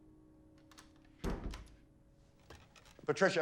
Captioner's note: door closes shut